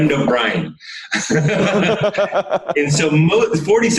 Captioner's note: both laugh